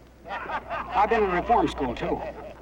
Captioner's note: men laughing